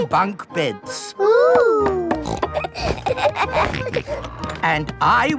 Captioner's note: snorts, laughs